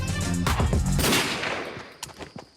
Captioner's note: gunshot